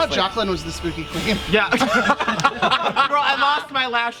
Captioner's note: laughter